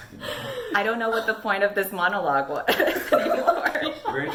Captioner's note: laughs